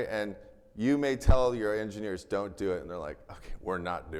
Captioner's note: none